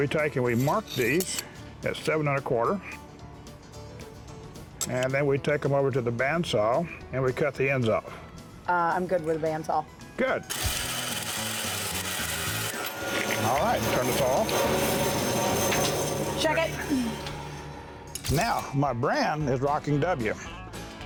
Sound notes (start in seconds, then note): 10.5 bandsaw cutting; 15.6 clicking bandsaw off